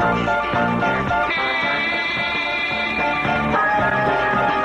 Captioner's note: horn Honks